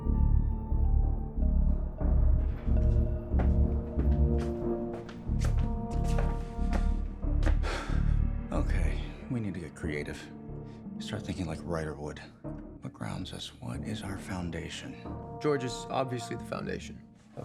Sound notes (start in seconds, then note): 0.1 dramatic music; 7.6 sighs